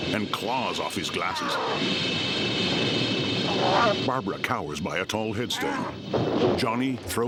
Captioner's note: growling